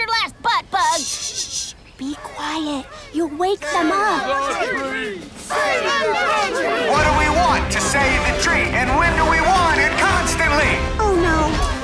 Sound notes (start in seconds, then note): 4.5 mob approaching